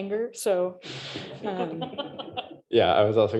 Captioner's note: laughter